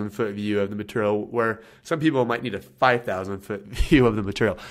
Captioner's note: laughs